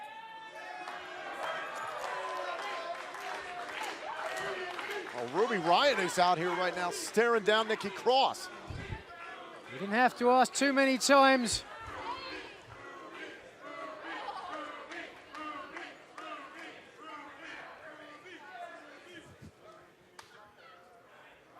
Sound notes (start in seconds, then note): 3.9 cheers and applause; 6.8 fans chanting; 15.5 fans chanting